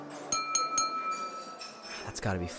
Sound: toast chime; footsteps

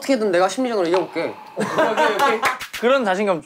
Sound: laughing

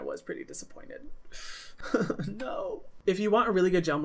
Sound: sobs

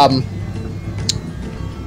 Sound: lipsmack

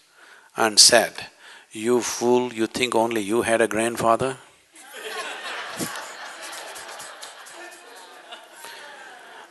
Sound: laughter

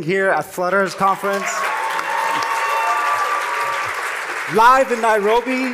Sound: cheering and applause

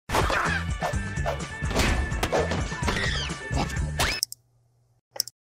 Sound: youtube video playing

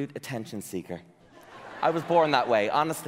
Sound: audience laughing

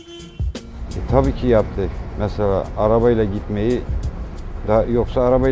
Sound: speaking Turkish

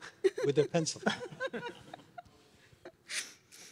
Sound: laughs; laughs

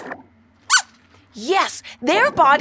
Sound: squeaks squeaking

